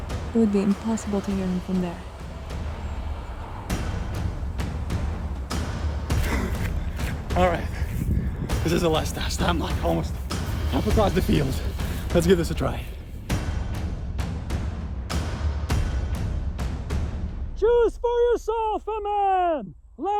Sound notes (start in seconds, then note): 6.2 winded